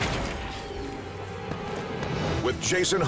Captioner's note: man thuds